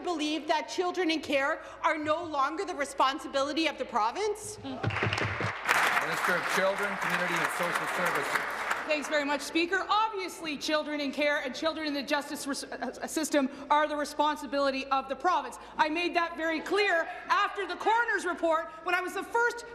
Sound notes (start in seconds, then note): 7.5 applause